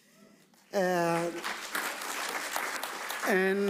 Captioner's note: audience applauds